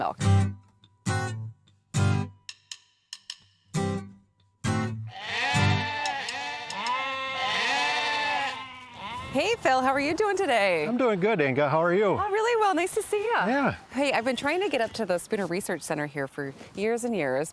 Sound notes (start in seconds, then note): 0.0 folksy music; 5.0 bleating